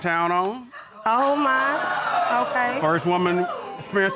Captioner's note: audience exclaiming